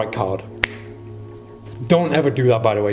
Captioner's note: fingers snap